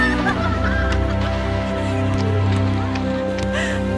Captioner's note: girls giggle; water splashes